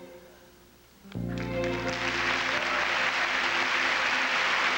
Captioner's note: applause